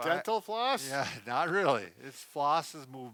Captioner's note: both laughing